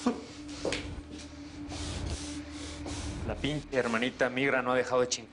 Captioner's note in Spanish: Fabrizio solloza